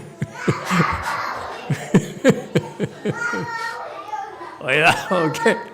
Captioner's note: laughs